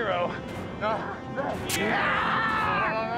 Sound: screaming

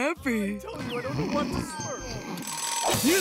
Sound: snoring; ringing

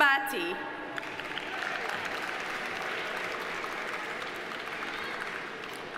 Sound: audience applauding

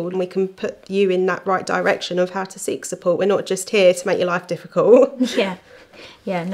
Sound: laughing

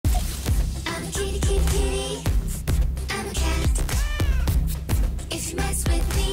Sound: meow

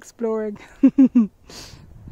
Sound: chuckles

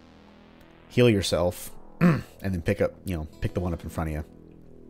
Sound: clears throat

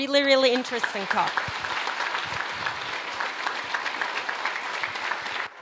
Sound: audience applauding

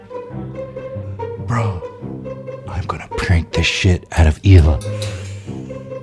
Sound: whispering

